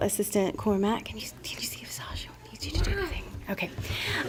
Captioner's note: whispers